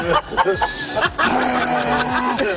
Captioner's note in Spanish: risas